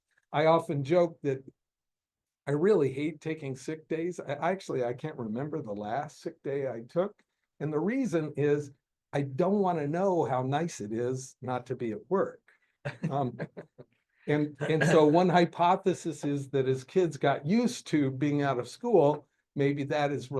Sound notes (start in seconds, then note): 12.8 chuckling